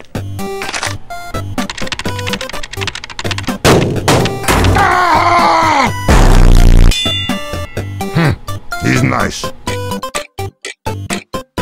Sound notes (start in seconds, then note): 1.5 fast keyboard typing; 1.6 computer whirring begins, cracking knuckles; 3.5 slamming foot onto keyboard keys; 4.7 angry scream; 6.1 distorted bass sound effect, loud ding; 10.0 clock ticking to the beat of the music